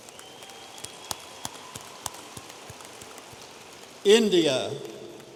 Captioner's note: audience applauding